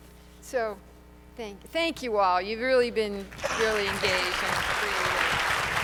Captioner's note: applause